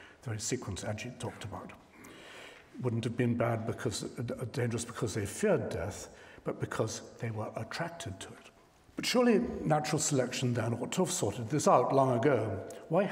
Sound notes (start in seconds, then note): 4.1 stammers